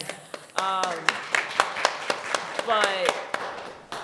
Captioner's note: applause